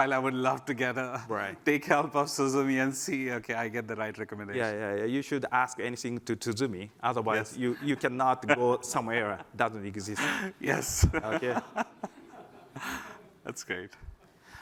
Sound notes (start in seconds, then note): 10.7 laughter